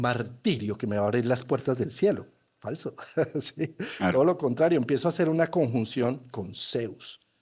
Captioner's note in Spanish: risas